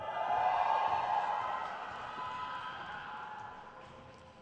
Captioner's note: crowd cheers